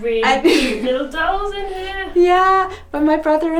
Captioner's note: laughs